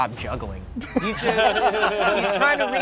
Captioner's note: everyone laughs